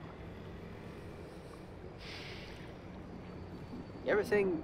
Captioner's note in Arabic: تنهد